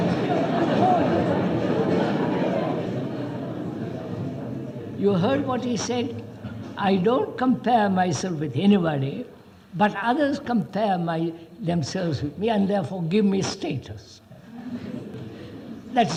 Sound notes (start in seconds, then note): 0.2 laughs; 0.7 laughter